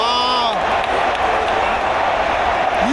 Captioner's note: is giving us a huge round of applause. Haha